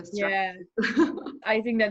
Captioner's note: chuckling